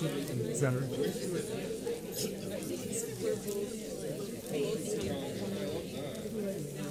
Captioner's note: paper crinkling and audience chattering